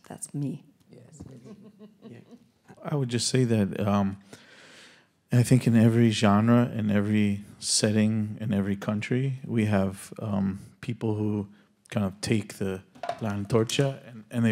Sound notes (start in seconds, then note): 1.4 audience member laughs; 12.7 speaking Spanish